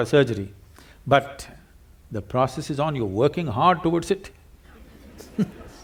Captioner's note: few Laugh